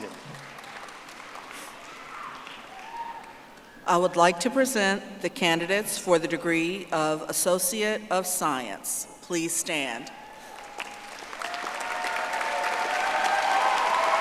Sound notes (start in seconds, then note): 2.8 audience applauding; 14.0 audience applauding